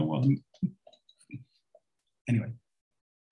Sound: laughs

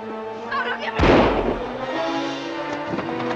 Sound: gunfire ringing; suspenseful music

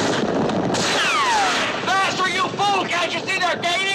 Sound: bullet ricochets

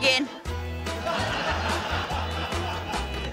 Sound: laughter

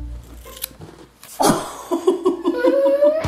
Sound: scissors snipping; both laughing

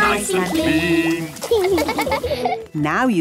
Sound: laughing

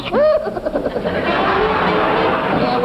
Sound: audience laughs

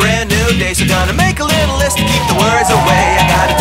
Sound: students cheering

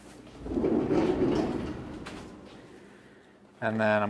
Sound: rack rumbles

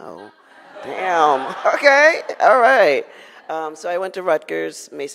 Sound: audience laughs

